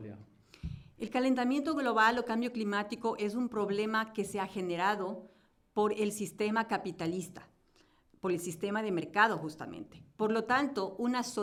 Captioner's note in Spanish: Español